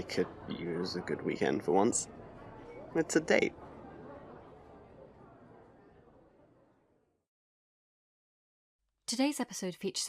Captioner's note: background chatter fades out